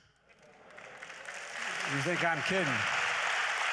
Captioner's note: applause